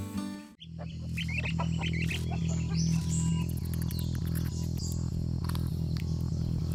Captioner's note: birds chirping; light dramatic music